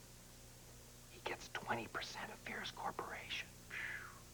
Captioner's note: whispering